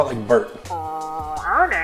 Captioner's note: duck sound